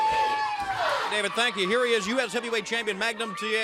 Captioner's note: crowd cheering